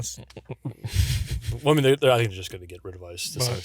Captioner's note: laughs